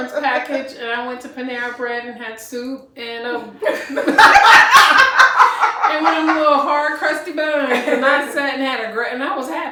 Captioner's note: laughter